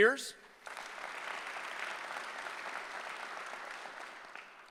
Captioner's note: applause